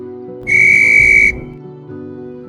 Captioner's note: June blows a whistle